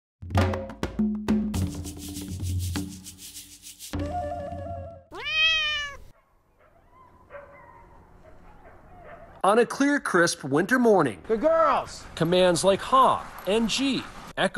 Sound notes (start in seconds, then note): 5.1 cat meowing; 7.3 dogs barking in the distance